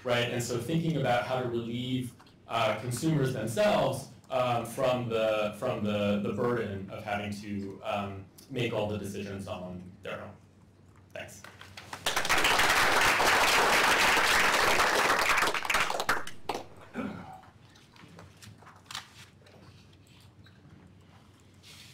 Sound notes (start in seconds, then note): 11.8 applause